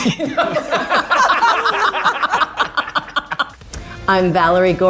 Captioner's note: everyone laughs